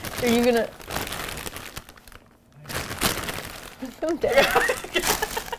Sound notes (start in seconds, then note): 0.0 rustles; 2.6 rustles harder; 4.3 both laugh